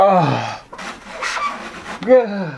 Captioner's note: screech